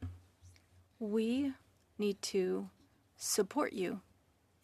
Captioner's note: speaking French